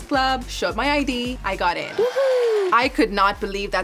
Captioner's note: cheering